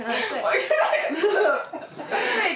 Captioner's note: laughs